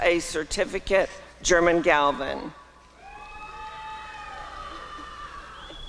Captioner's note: applause and cheering